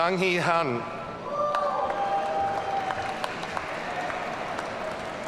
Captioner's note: audience cheering